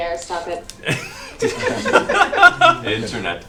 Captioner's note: all laugh